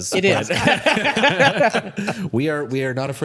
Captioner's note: both laughing